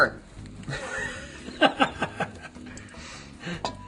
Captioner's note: laughs